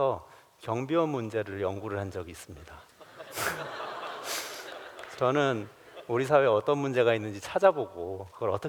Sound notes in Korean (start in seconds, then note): 2.9 웃음